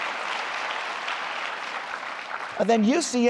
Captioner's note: applause